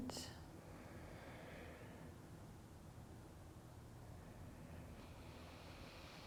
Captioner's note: breathing